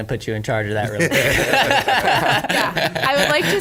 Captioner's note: everybody laughs